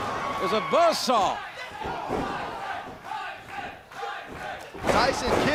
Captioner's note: crowd cheering